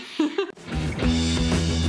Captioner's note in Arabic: يضحك; موسيقى صاخبه